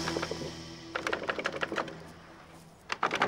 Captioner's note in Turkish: Tahta gıcırtısı